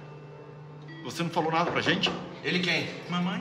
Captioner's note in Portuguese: batida na porta